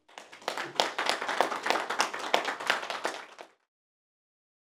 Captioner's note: audience clapping